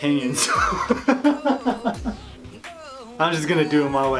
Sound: laughs

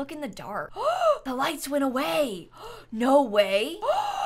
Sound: gasps

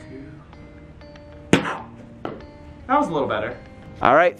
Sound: thuds

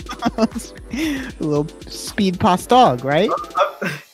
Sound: laughing

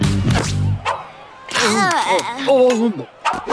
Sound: groaning

